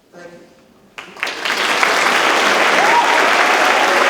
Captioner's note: audience claps